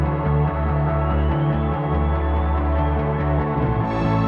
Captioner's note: whistling